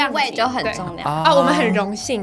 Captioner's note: angel voice